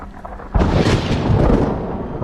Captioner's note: thunder crash